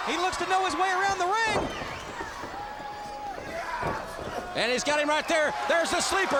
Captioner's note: crowd cheering